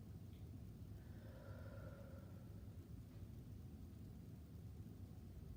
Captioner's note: breathing deeply